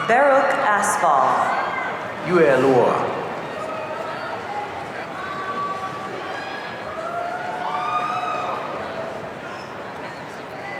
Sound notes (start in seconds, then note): 6.8 audience cheering